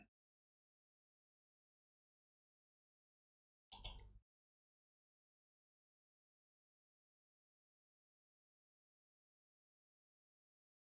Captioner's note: blank Audio